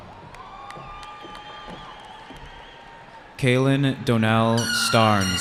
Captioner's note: cheering